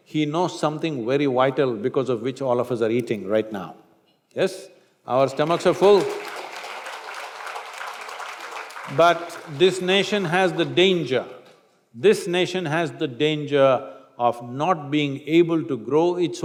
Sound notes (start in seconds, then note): 7.9 applause